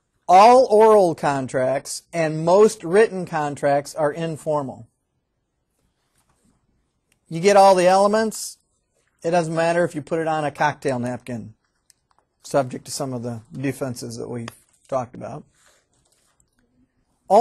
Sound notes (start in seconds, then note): none